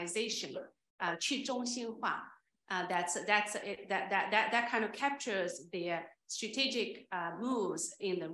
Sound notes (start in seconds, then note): 1.7 speaking Chinese